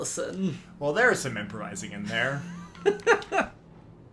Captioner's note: laughing